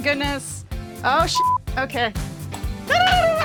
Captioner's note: beep